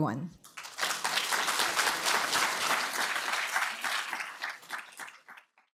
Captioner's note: applause